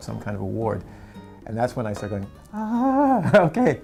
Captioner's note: laughs